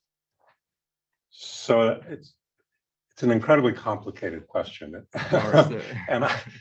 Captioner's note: laughs